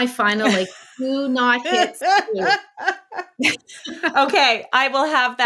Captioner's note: laughing